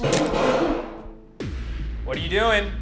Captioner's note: gun booming